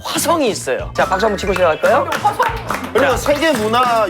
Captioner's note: sparking Applause